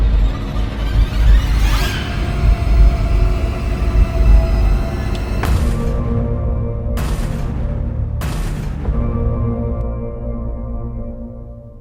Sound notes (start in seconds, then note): 0.1 dramatic music; 7.0 gun firing